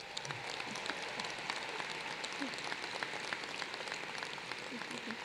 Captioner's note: applause